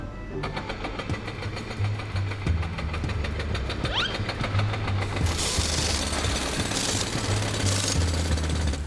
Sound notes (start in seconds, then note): 0.5 machine chugging; 5.2 tools whirring, pounding